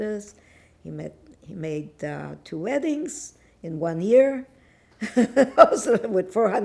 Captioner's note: laughing